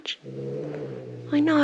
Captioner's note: growling